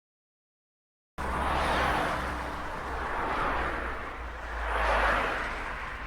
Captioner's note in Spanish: Sonido de autos circulando en carretera a alta velocidad